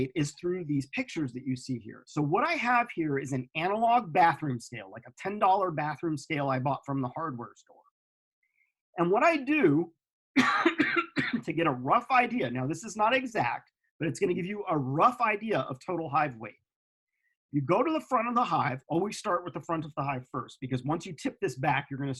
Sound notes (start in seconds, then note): 10.3 coughs